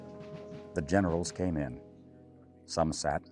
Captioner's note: voiceover